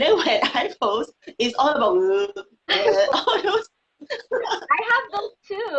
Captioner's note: laughing